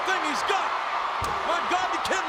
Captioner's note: spectators cheering